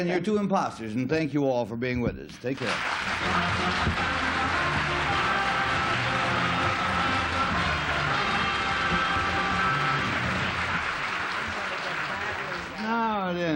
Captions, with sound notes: and your husband Patrick and your two imposters, and thank you all for being with us. Take care. [applause] [theme music]